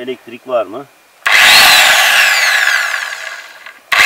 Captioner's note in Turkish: Elektrikli testere sesi